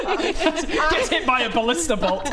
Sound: organised laughter

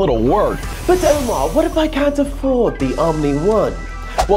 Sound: in a British accent

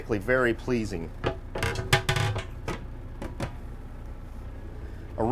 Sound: sink covers clanking

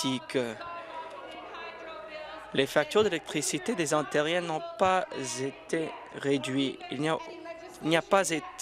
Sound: applause

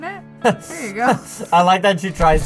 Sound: laughs

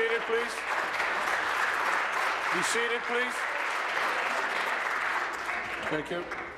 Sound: applause

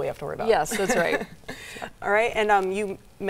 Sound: laughing

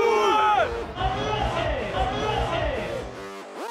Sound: announcer yelling

